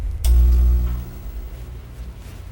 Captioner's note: electric hum